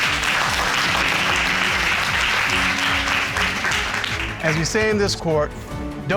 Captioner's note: audience clapping